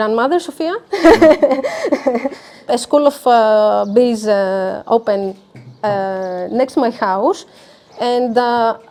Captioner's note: laughs